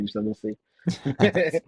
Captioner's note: laughter